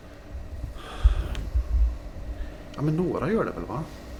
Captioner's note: sighs